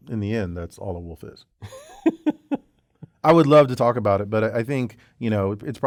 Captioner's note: laugh